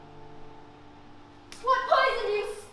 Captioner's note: slap